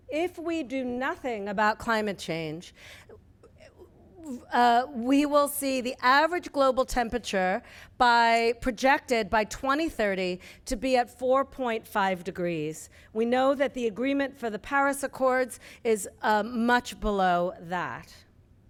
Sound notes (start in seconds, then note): none